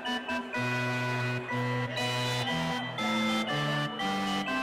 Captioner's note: crowd chattering